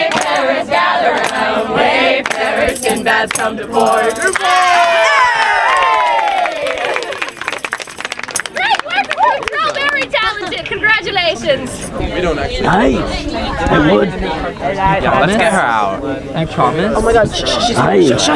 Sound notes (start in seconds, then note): 4.3 audience cheering; 11.9 people chattering